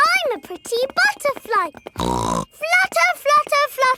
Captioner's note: snorts